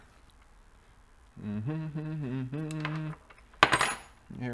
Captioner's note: humming